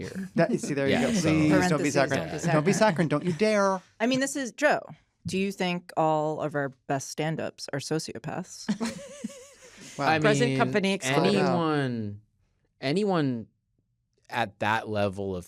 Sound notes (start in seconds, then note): 8.7 chuckling